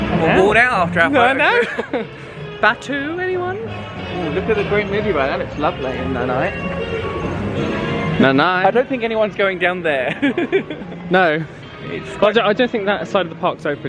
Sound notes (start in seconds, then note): 9.9 laughs